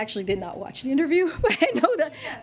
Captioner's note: laughs